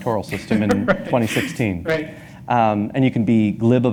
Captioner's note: laughs